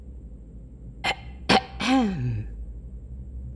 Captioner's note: clear throat